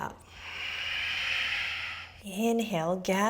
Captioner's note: exhaling